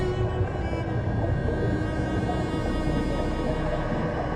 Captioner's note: water rushing